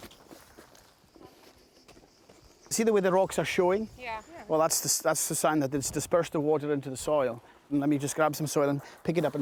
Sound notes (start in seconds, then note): 0.0 footsteps on loose gravel; 2.9 with Scottish accent